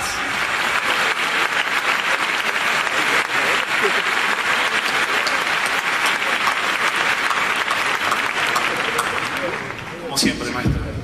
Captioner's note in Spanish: aplausos